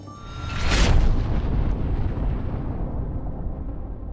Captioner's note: logo thundering